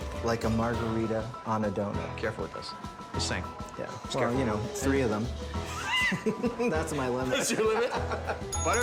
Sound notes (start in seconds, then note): 5.7 both laughing